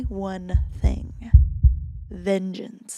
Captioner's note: heart beats